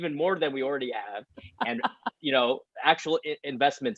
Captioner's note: chuckles